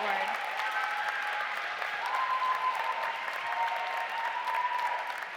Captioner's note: audience applauding and cheering